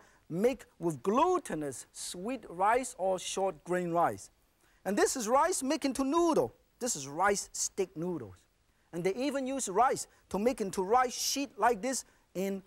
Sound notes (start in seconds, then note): none